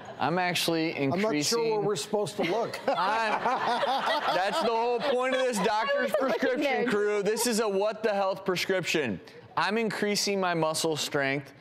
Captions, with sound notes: I'm actually increasing-- I'm not sure where we're supposed to look. (laughter) That's the whole point of this doctor's prescription, crew. This is a what the health prescription. I'm increasing my muscle strength